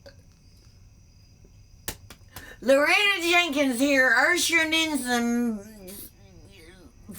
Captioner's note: burps